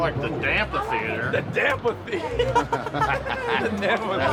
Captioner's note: laughter